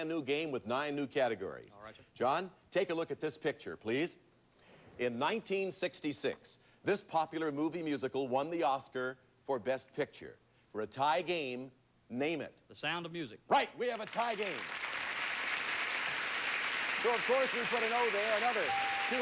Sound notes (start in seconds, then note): 15.9 audience applauding